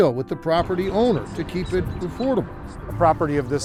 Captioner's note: birds chirp